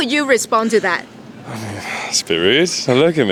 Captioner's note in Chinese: sigh; 嘆氣